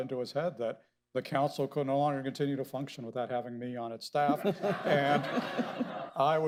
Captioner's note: laughter